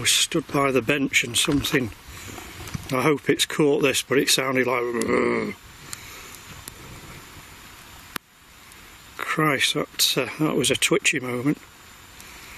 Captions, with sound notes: I was stood by the bench and something I hope it's caught this but it sounded like. (growling) Christ, that was a twitchy moment.